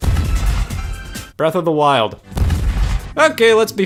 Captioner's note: eerie music; loud bang